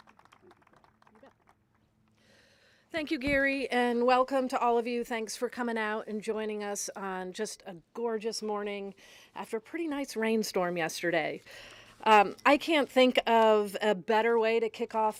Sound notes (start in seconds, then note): 3.1 applause